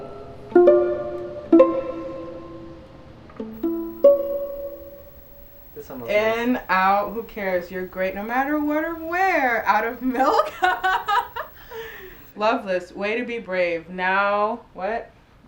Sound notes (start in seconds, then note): 8.6 laughs